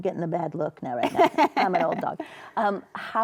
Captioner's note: laughs